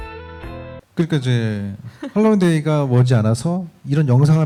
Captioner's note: speaking korean